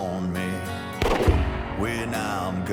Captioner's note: gunshot